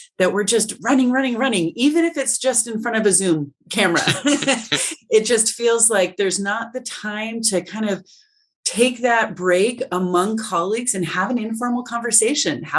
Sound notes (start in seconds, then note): 3.9 all laughing